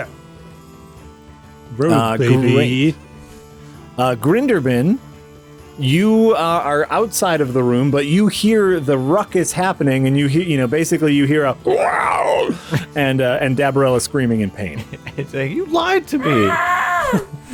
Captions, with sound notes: Rogue baby! - Grinderbin You, are outside of the room. But you hear the ruckus happening and you hear, you know, basically, you hear a... ( very well done monster growl ) And, And Dabarella is screaming in pain - Saying “you lied to me.”